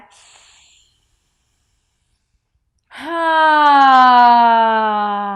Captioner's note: sighs loudly